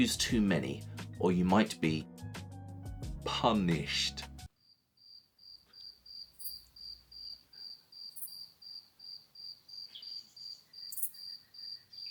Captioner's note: crickets chirping…